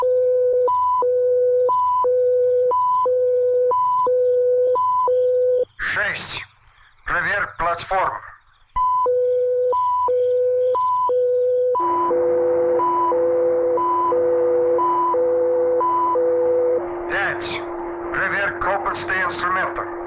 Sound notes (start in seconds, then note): 5.6 soldier speaking in Russian; 8.5 machinery beeping; 11.8 machinery whirring; 16.8 soldier speaking in Russian; 19.8 machinery beeping